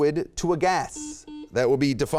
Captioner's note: beep